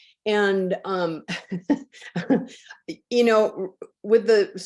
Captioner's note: laughs